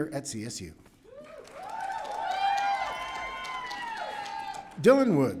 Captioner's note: audience cheering